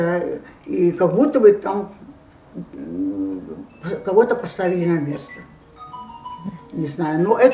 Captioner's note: phone ring